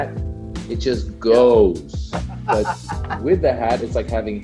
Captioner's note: laughs